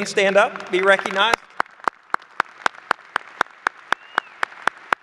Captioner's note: applause